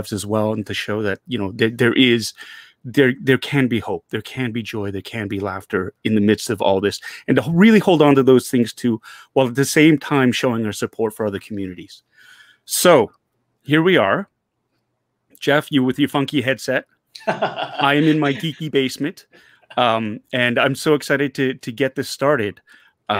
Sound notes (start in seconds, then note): 17.2 Jeff laughing